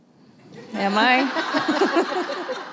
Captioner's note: laughter